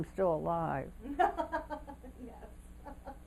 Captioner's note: laughter